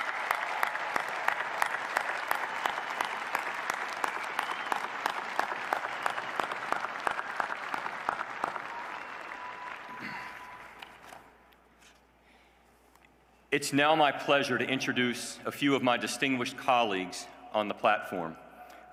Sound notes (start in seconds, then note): 3.7 applause